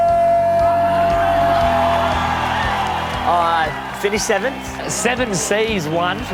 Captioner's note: crowd cheers and applauds